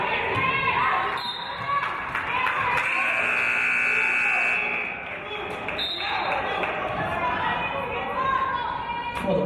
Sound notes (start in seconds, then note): 1.3 referee's whistle; 2.8 buzzer; 5.7 referee's whistle